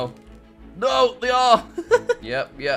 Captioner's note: laughs